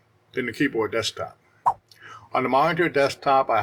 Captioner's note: swipe Sound